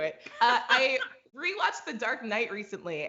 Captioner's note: laughs